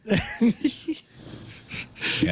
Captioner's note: laughing